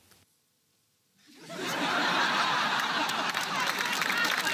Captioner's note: laughter; applause